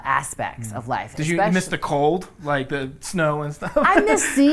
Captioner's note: laughs